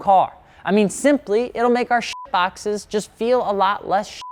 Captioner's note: beep